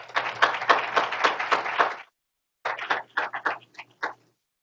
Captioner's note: group applauding